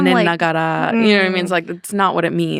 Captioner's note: speaking Japanese